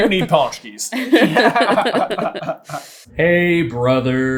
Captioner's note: laughter